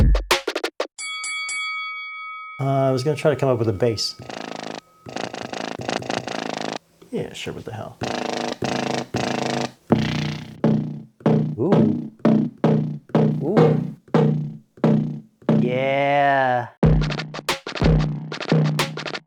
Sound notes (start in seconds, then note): 1.0 bell ding; 10.5 bass sample